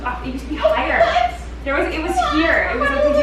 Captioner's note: laughing